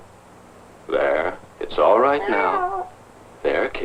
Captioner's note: annoyed meowing